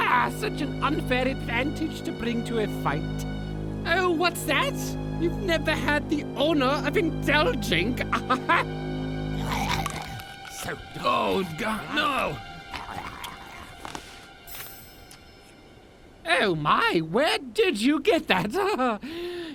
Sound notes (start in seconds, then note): 8.0 chuckles; 9.4 gross chewing and slurping noises; 18.3 chuckles nervously